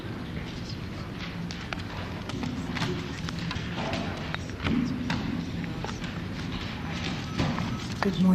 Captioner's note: whispering